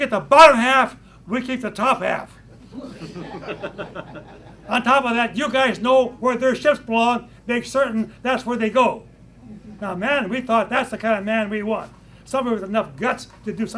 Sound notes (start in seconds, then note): 2.6 laughter